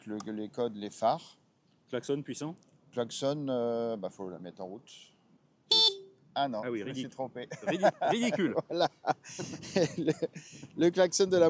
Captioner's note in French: rire